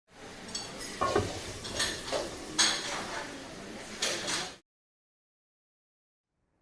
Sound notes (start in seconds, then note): 0.4 clattering kitchen noises